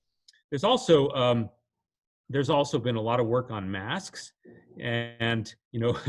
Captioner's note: chuckles